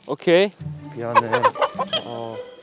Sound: flap!

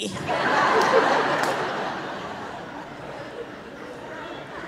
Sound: audience laughing

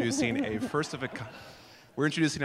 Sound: laughter

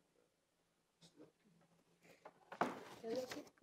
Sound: no speech

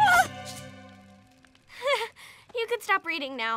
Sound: laughs

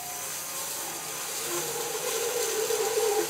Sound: saw buzzes

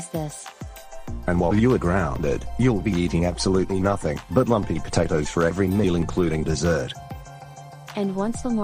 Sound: imitates Lamar's dad

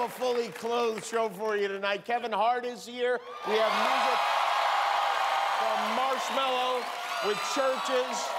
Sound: cheers and applause

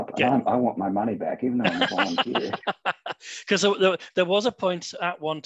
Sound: laughter

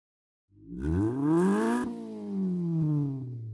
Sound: engine revs

